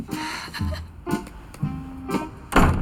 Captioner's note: laughs